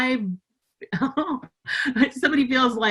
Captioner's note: laughing